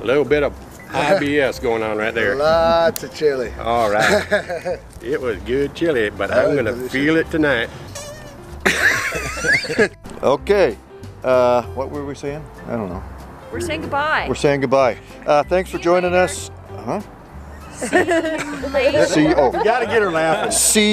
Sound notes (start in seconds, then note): 7.9 squeek; 8.6 laughter